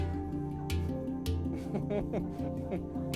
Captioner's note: chuckles